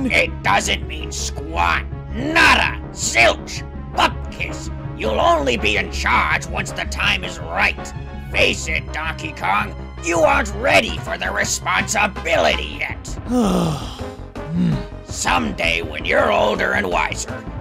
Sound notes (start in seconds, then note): 13.2 frustrated sigh and dismissive grunt